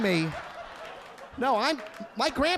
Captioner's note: audience laughing